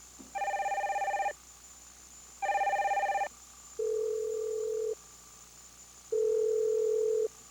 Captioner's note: telephone rings